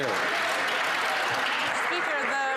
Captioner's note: some Applause